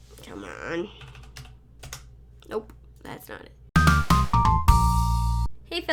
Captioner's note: typing noises